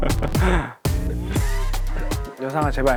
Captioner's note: heheh